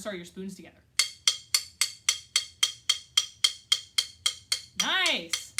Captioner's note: clicks sticks together